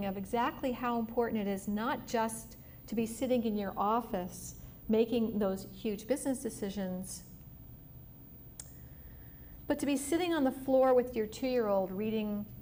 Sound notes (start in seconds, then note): none